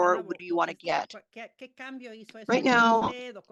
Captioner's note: speaking spanish